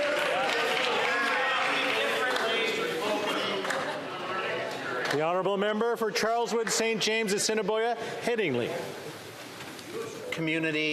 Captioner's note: chatter